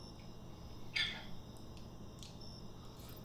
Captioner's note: fork scrape